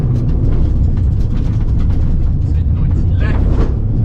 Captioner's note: engine rumbling